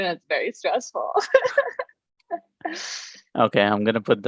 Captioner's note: laughs